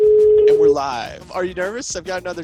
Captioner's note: phone beeps